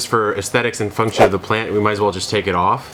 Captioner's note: logo whooshing